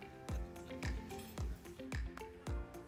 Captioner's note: upbeat music; utensil clinking; hand patting; upbeat music